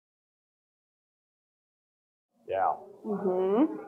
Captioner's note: audience groaning